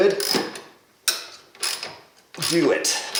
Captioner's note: wrench cranking